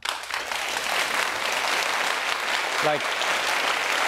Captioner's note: audience applauding